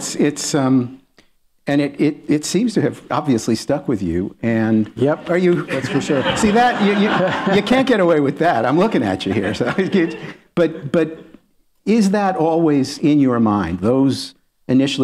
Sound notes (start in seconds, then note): 5.5 laughter